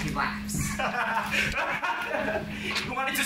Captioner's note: laughs dramatically